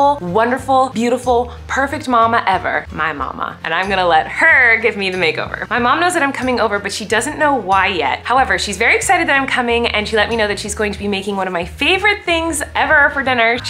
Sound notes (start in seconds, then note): none